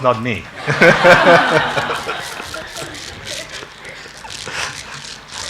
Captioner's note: congregation laughing